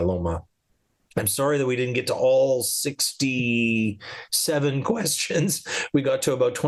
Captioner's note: laughs